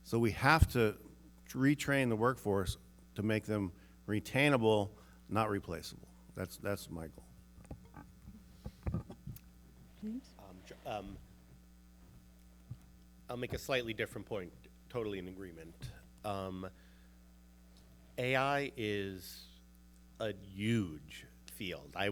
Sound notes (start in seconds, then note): 8.2 mic scuffling